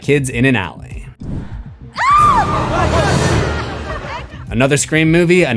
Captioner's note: screams